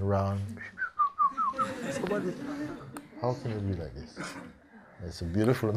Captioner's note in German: pfeifend